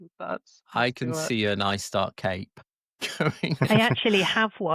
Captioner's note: laughs